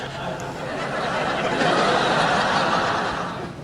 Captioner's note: laughing